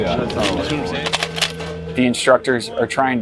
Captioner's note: metal clicking